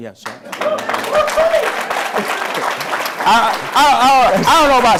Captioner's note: applause